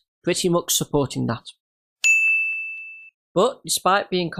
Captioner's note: ding